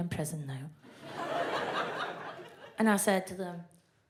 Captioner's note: audience laughs